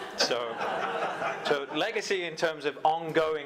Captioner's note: audience laughing